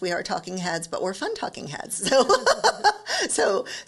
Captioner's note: laughs